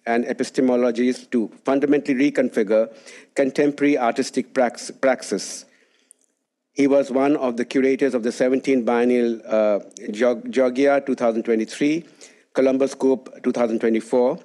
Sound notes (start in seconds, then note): none